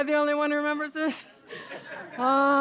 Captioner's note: laughter; laughs